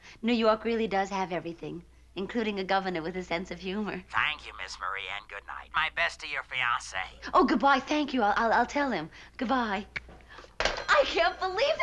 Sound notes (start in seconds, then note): 4.3 on phone